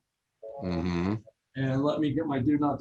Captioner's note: phones rings